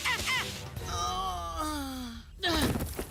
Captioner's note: Cameron Yelling in Pain; Cameron Groaning